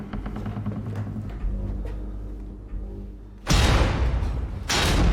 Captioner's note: creaking; bang!